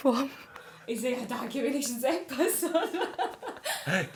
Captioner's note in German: Gelächter